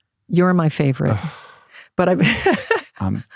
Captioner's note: laughs